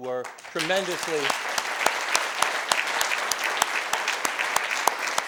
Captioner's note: applause